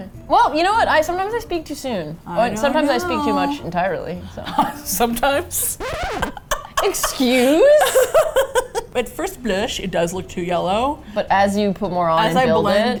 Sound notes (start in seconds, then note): 2.1 singsong; 5.4 record scratch; 6.2 laughing; 6.2 laughs; 8.1 indignantly